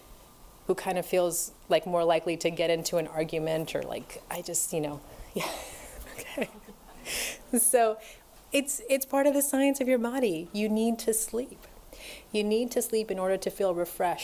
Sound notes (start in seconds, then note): 5.4 laughter; 5.4 laughs